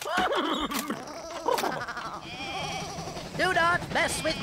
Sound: lambs Bleating

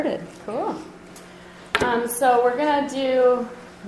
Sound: voiceover

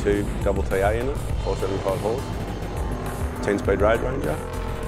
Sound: engine revving

